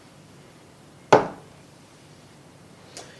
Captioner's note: knock